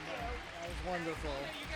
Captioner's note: applause